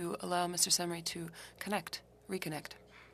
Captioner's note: speaking French